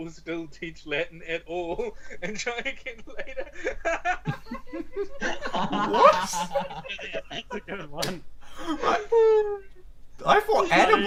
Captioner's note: laughter